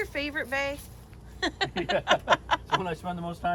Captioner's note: laughing